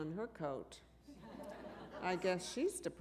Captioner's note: laughter